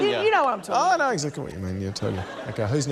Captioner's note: laughter